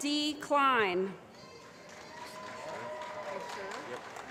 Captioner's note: applause